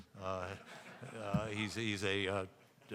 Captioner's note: audience laughing